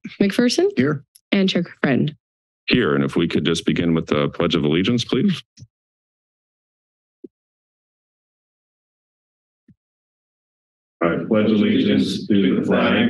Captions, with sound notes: -McPherson? - Here. - And Chair Friend? - Here, and if we could just begin with the Pledge of allegiance, please. [silence] - I pledge allegiance to the flag